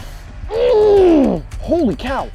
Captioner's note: groans